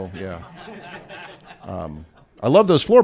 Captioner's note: laughter